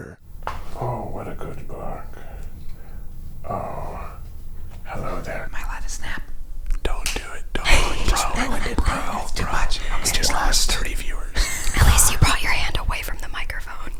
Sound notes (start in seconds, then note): 7.1 snaps